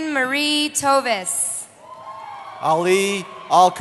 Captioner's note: cheering